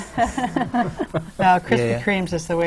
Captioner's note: laughter